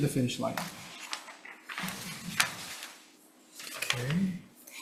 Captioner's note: paper rustling